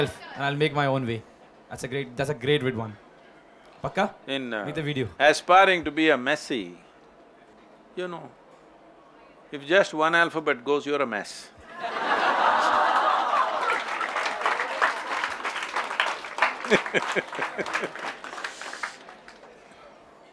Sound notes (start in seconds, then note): 12.9 laughter/Applause